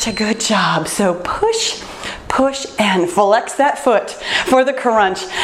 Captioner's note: timer beeps